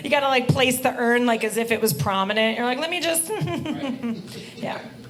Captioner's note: giggling